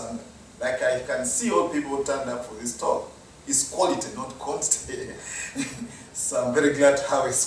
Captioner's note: laugh